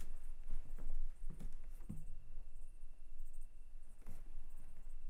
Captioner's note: crickets chirping